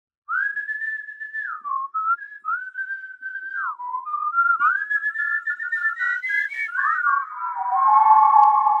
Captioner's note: whistling